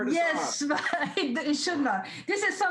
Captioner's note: laughs